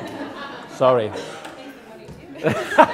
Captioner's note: audience laughs; laughs